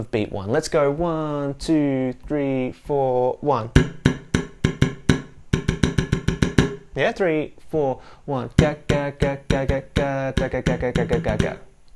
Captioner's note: claps rhythm